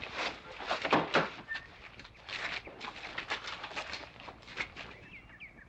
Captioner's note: bodies shuffling through the door